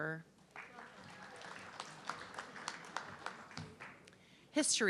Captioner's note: audience clapping